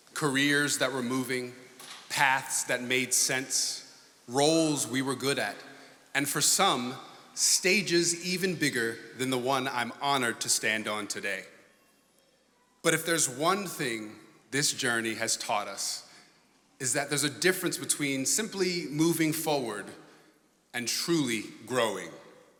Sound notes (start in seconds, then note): none